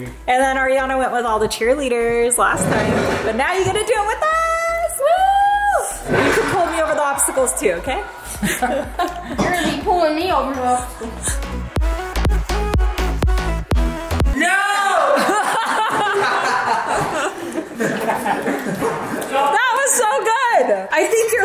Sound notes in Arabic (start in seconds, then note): 11.7 موسيقى إلكترونية مبهجة; 15.0 يضحك